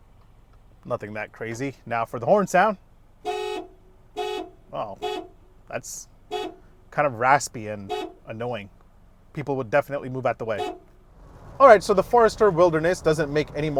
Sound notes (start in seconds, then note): 3.2 horn honks